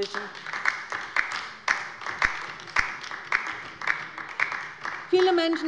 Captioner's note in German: Beifall bei der LINKEN